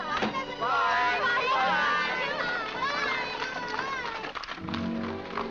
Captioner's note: family shouting goodbyes